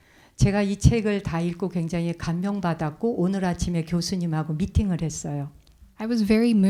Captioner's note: speaking in Korean